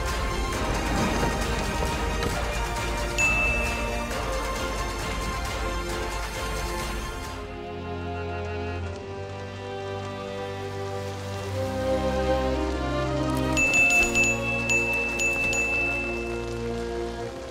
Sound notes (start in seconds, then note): 3.2 dinging; 7.6 rain falling; 7.6 somber music; 13.6 dinging